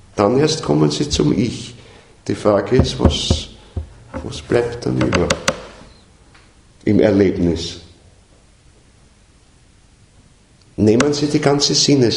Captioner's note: knocks again